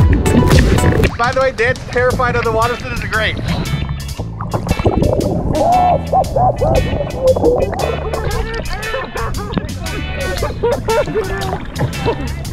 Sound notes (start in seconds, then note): 4.9 terrified screaming underwater; 8.4 nervous laughter